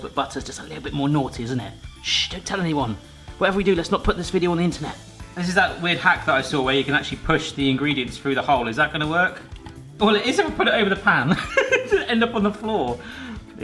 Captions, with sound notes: but butter's just a little bit more naughty, isn't it? Shh, don't tell anyone. Whatever we do let's not put this video on the internet. This is that weird hack that I saw where you can actually push the ingredients through the hole. Is that gonna work? Well it is if I put it over the pan. (laughs) End up on the floor.